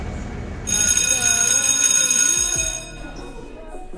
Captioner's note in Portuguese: Sinal de Escola